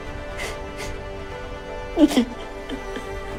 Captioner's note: Eleanor cries